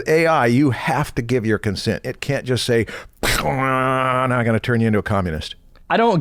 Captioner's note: pew